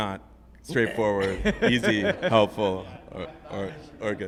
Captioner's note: group laughing